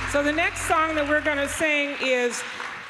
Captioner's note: applause